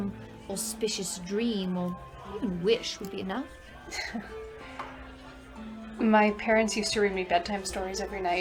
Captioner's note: laughs